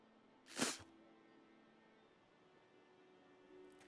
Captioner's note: Marshall spitting